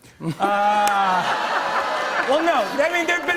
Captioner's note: laughter